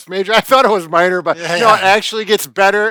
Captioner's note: laughing